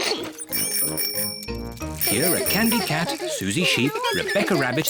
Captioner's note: giggles; bicycle bells tinkle